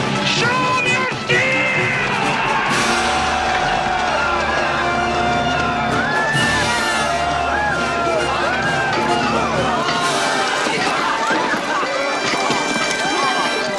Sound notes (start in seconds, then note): 3.6 Aplausos